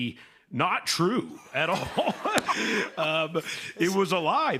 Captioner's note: laughter